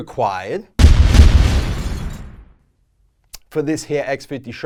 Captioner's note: pounding and shattering